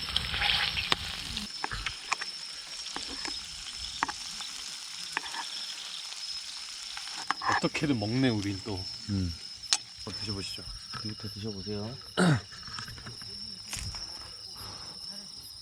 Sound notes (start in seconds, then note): 5.1 gulp